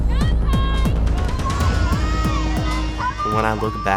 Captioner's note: action music; indistinct chattering